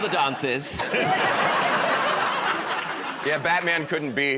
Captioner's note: laughter